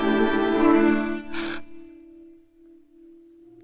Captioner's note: gasps